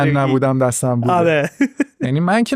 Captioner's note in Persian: خنده